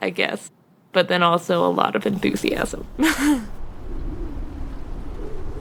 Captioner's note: laughs